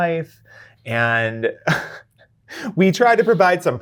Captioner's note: chuckles